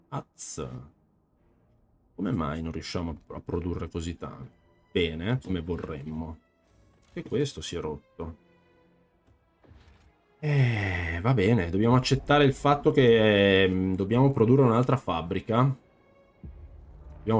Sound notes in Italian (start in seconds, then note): 10.4 sospiri